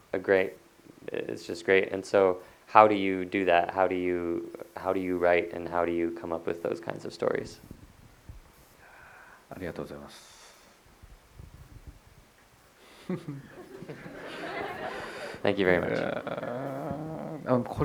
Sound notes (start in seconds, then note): 13.2 audience laughter; 16.7 Kore-eda laughs